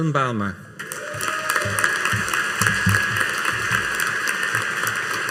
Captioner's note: audience applauding